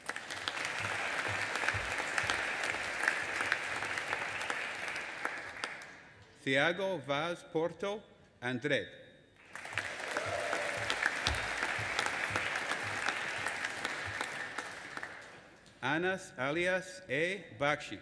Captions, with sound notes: (AUDIENCE APPLAUDING AND CHEERING) Thiago Vaz Porto Andrade. (AUDIENCE APPLAUDING AND CHEERING) Anas Ilyas A Bakhsh.